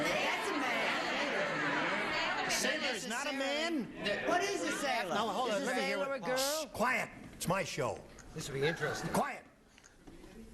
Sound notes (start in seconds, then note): 7.0 shushing